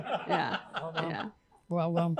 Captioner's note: laughter